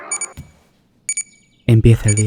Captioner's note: alarm clock